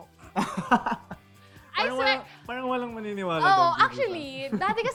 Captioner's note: laughs